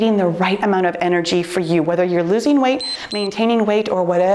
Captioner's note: timer beeps